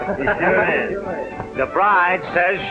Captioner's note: chuckling